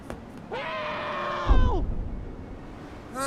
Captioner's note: screaming for help